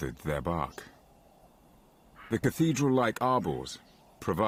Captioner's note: birds chirping